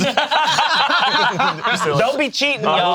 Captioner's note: group laughs